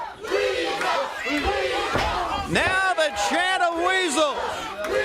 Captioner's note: crowd cheering